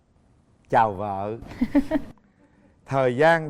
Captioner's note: laughing